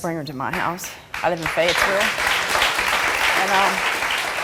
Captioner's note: crowd applauding